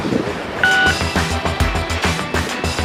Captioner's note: phone beep